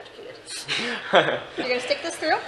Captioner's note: chuckles